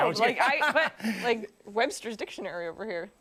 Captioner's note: laughter